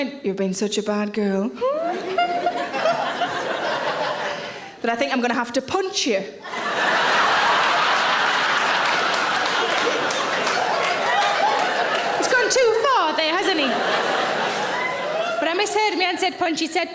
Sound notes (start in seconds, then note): 1.6 giggling; 1.8 audience laughing; 6.5 audience laughing; 14.0 audience laughing